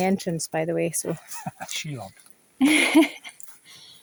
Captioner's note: laughs